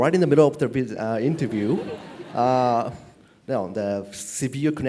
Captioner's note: laugh